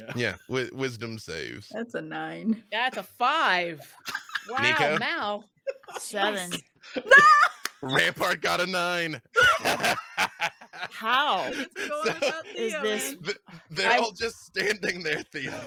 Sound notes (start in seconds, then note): 3.8 panel laughs; 7.4 yells; 9.3 laughing